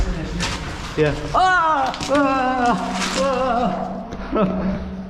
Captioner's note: screaming